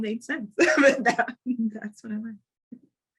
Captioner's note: chuckling